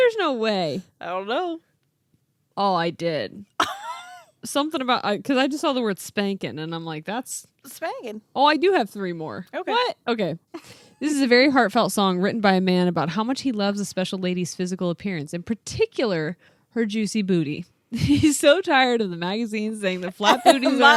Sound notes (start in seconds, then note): 3.6 laughing